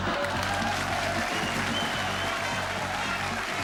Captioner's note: cheering and applause